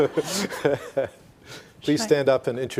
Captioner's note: all laughing